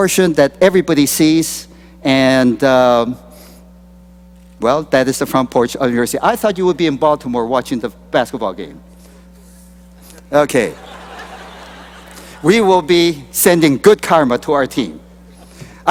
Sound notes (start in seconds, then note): 10.6 laughter